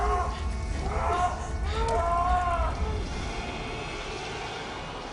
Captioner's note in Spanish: Gritos